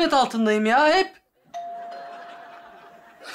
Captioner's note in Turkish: Kapı zili sesi